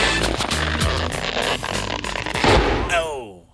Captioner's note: popping